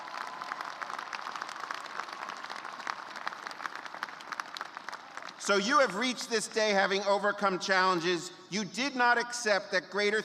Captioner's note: cheers and applause